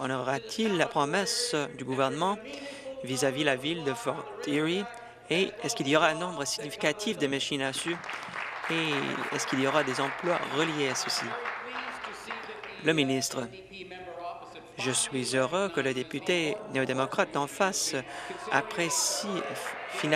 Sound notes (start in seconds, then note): 10.2 applause